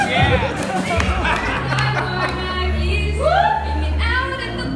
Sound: whoop!

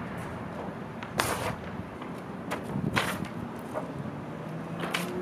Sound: paper ripping

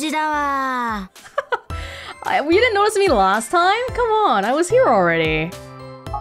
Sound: chuckles

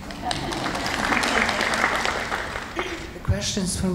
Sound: applause

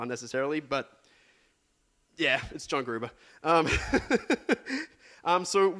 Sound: laughs

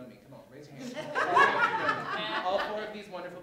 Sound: laughter

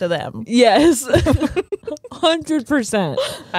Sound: both laughing

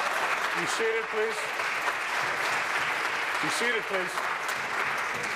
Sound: applause

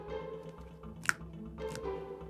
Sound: snapping fingers

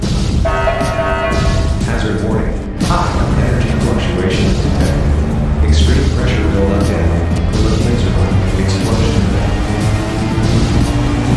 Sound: announcement Chime

